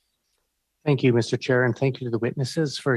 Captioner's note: speaking French